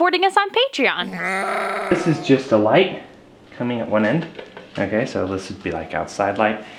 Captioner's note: goat Sound